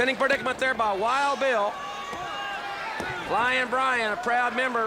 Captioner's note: crowd chatter